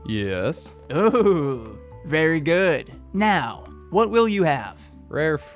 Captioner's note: giggle